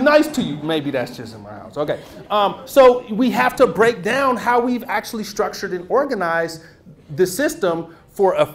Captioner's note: laughter; more laughter